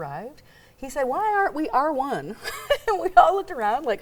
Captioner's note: chuckling